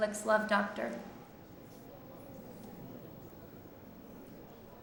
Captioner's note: crowd murmuring